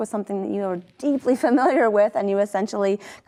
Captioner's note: chuckles